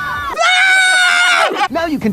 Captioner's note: screaming; screaming children